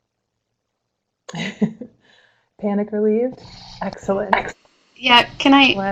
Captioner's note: laughs